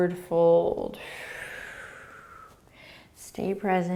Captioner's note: exhaling